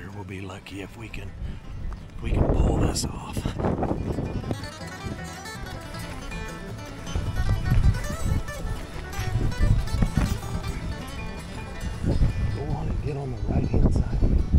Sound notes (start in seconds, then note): 3.4 fun banjo music; 3.4 wind whistling